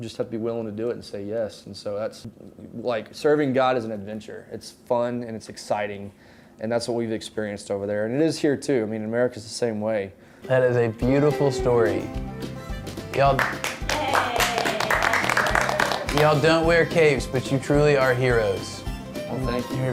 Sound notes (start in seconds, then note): 13.0 clapping